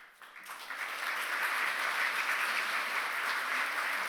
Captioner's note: applause